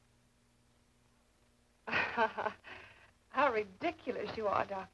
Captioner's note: laughs uncomfortably